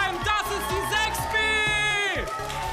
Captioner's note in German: Jubel